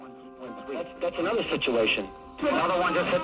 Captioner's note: radio chatter